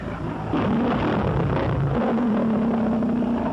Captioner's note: roars